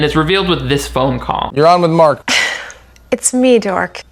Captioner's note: woman chuckles